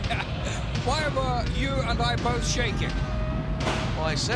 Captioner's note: laugh